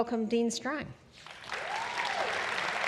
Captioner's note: applause